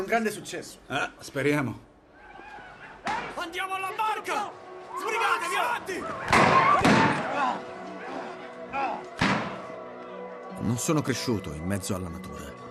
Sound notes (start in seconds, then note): 6.2 gunshots